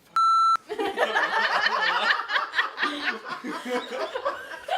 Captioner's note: laughter